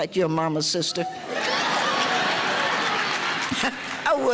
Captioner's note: audience laughter